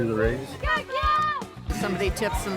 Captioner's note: shouting